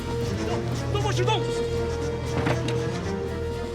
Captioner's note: man shouts in foreign language